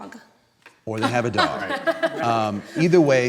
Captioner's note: laughing